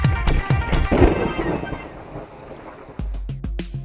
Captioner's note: thunderstorm